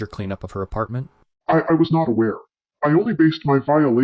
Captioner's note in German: verzerrtes Stottern